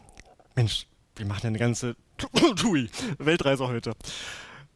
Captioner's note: cough